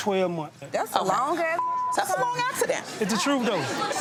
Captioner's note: beep